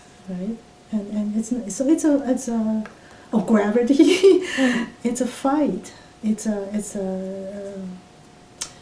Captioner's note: laughs